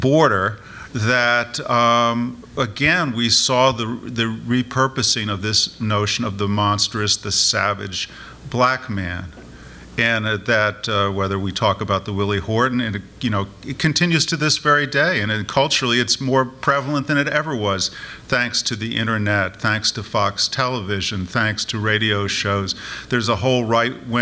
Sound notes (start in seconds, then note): none